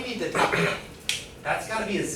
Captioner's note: student clears throat